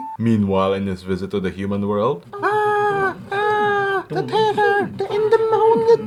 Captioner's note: active War Noises